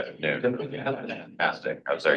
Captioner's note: trustee faintly speaking